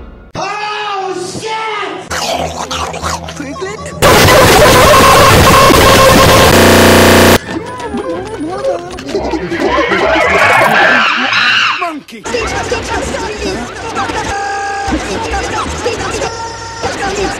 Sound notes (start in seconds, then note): 2.1 eating Noises; 4.0 extreme Freakout; 7.3 drowning; 9.0 monkey Noises; 14.0 freakout Stutter